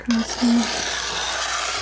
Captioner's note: scratching